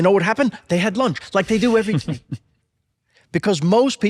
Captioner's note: laughs softly